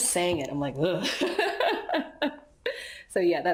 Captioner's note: laughs